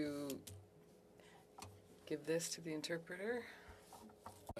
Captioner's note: speaking French